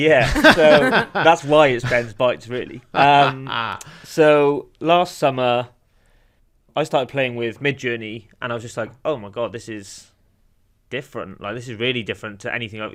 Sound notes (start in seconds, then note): 0.2 laughter; 2.5 laughs